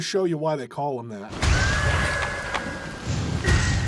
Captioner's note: banshee screaming